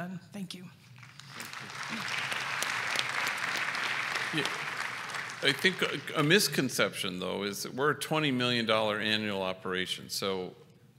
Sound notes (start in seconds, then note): 0.9 applause